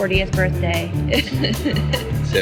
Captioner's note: laughs